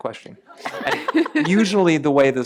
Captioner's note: laughter